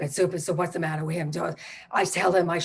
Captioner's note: mutters